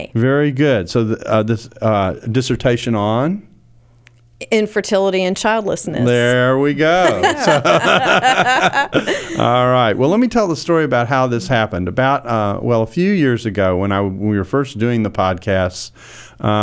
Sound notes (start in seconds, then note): 6.9 laughing